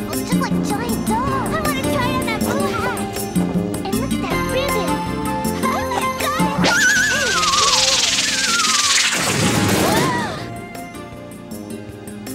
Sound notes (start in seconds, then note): 5.5 Pink Triplet laughs; 7.4 triplets gasp